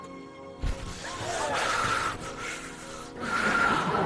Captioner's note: gasping